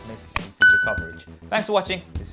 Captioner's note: bell dinging